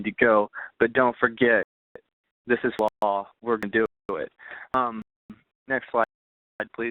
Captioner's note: voice distorting